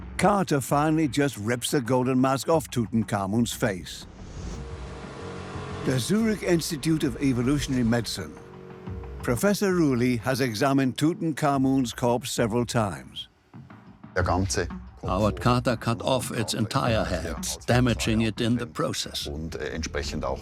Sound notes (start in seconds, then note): 14.1 in German; 15.3 dubbed in English